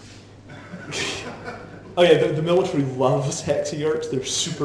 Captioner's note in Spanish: la audiencia se ríe